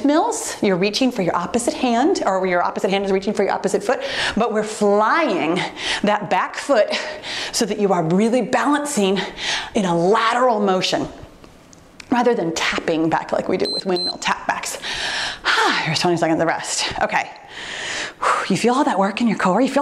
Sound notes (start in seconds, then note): 13.6 timer beeps